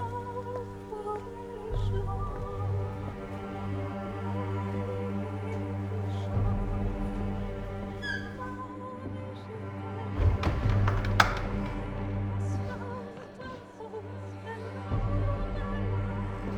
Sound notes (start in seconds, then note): 0.0 singer vocalizing; 0.3 eerie music; 10.2 door thuds; 12.9 eerie music continues